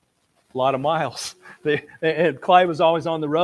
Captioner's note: laughs